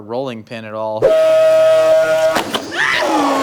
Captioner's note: blender blending